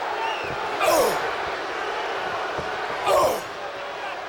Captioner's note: wrestlers grunting